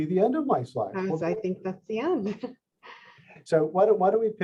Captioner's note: laughs